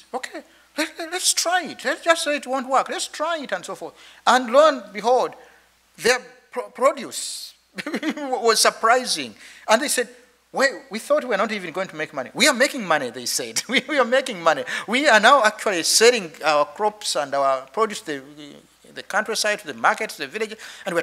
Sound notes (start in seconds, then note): 7.8 chuckles